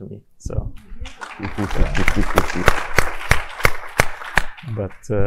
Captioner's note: all applauding